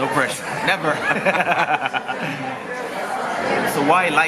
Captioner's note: laughs